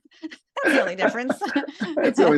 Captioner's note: laugh